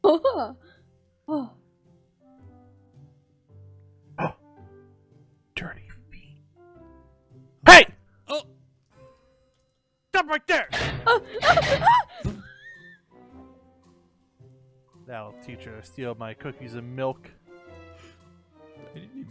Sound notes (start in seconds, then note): 11.7 Tina screams